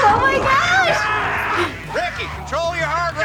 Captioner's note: Ricky screams